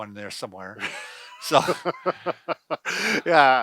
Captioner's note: laughs